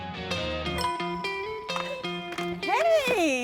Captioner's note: bell dinging; laughing